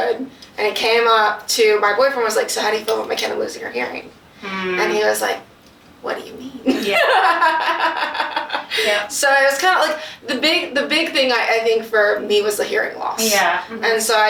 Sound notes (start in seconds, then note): 6.7 laughs; 8.3 both laugh